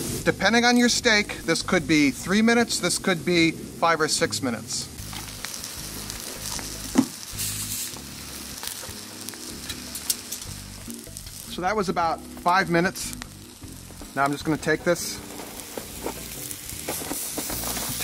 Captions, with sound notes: Depending on your steak, this could be three minutes, this could be five or six minutes. (coals sizzling) So that was about five minutes, now I'm just going to take this